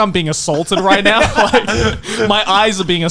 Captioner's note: laughing